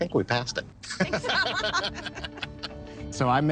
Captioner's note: both laugh